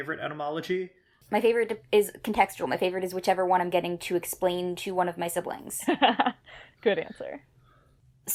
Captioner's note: laughs